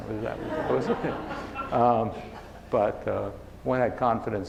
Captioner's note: laughing